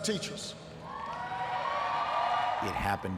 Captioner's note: audience cheers